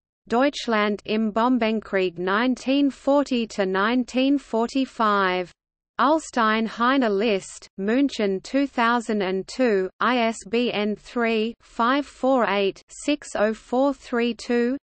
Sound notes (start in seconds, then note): 0.0 in German; 10.0 in German